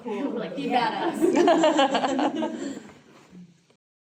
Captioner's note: audience laughter